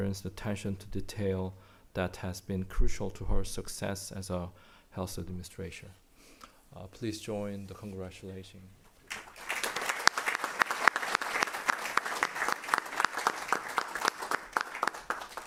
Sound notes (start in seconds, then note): 9.0 applause